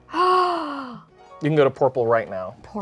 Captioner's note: gasps